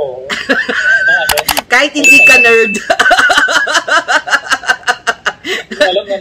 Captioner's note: laughter